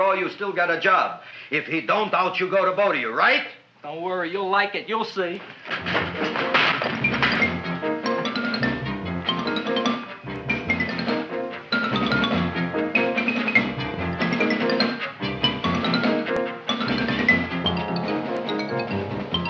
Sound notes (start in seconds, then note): 5.4 Seymour crashing; 6.0 upbeat music